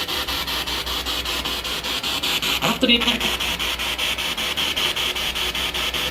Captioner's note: radio noise from the spirit box